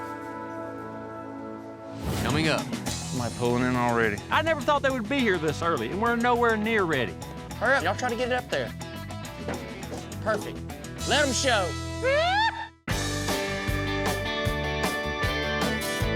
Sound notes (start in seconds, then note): 10.1 cheers